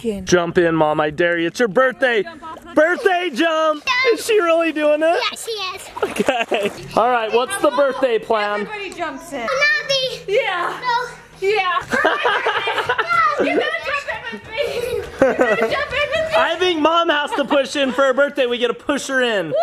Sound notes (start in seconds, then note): 5.8 laughs; 13.4 laughing